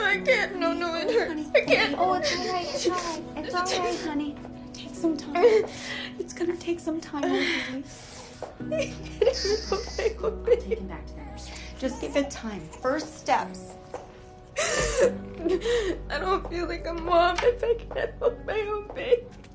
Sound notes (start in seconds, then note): 8.6 sobbing; 14.5 sobbing